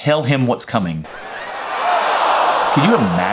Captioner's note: audience screams